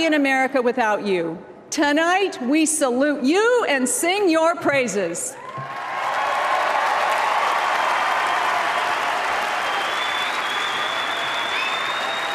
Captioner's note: applause